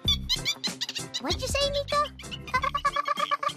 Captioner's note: chirping